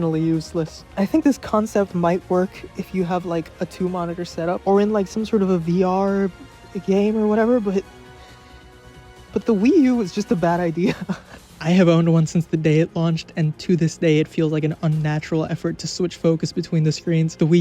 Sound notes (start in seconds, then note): 10.8 laughs